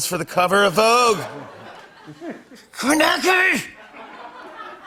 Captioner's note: laughter